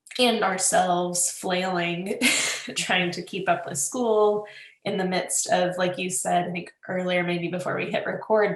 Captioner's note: laughs